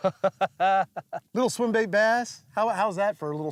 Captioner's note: laughing